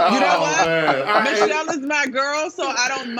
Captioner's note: laughter